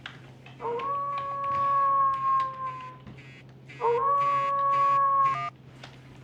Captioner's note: phone Rings - Wolf Howl